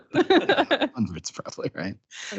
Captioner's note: laughing